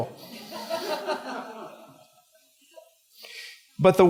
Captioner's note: laughter